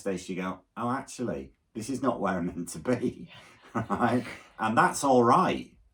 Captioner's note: laughs